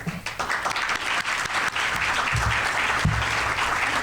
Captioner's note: applause